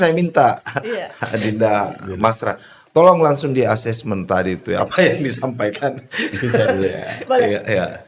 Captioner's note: laughter